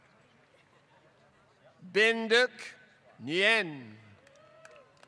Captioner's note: applause